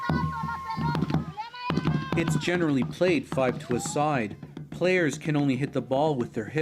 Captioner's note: speaking alternate language